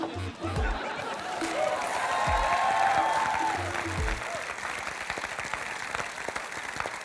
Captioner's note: cheering and applause